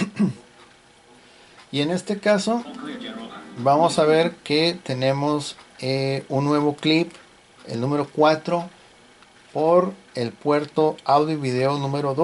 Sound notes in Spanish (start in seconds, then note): 0.0 carraspeo